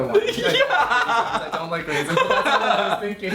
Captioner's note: laughing